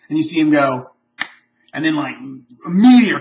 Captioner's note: snap